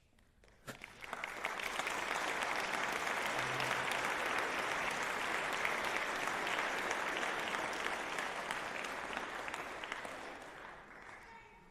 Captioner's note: applause